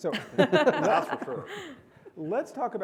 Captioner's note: panelist laugh